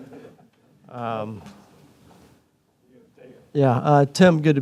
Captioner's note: audience laughing